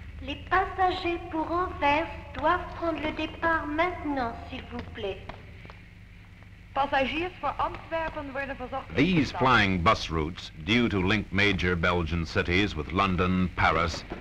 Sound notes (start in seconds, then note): 6.5 heliport announcement in DUTCH